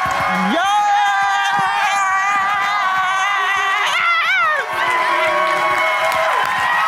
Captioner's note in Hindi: जयकार